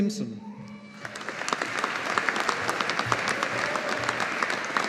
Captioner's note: audience applauding